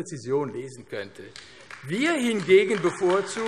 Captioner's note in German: Beifall AfD